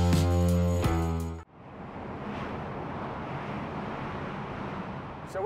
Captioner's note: boat swooshing